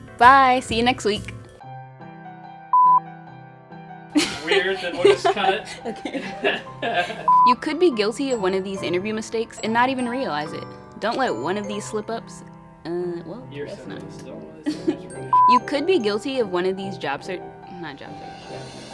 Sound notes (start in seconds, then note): 4.1 laughing; 14.6 laughing